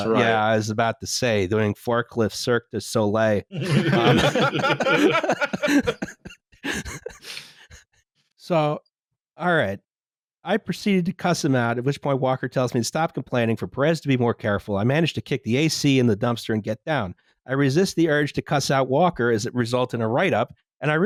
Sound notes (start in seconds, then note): 3.5 laughter